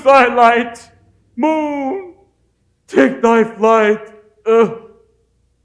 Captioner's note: groan